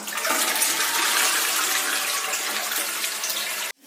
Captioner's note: water flushing